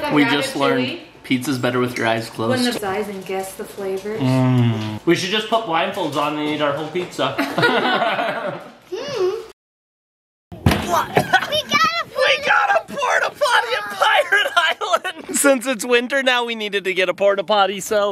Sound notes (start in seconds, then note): 7.6 laughing; 10.9 coughing